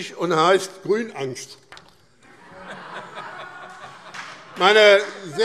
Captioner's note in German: Heiterkeit und Beifall BÜNDNIS 90/DIE GRÜNEN und CDU